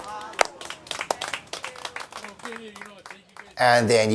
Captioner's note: crowd clapping